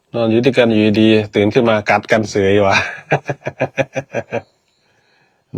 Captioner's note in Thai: เสียงหัวเราะ